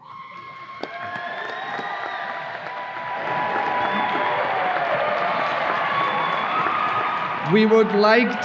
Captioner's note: audience applause and cheers